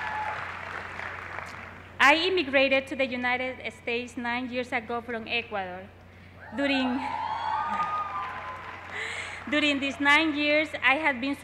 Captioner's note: cheers and applause